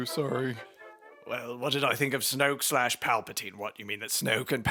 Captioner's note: sounding drunk